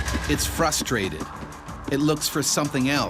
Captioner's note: voiceover